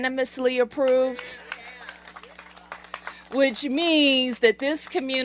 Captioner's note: applause